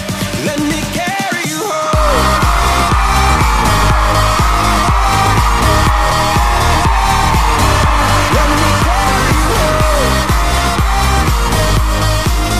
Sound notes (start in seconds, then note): 2.5 cheering